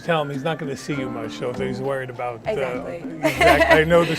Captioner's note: laughs